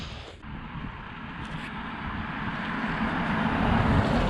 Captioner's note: car motor humming